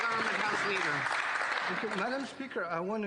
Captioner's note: applause